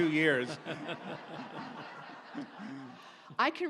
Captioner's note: audience laughs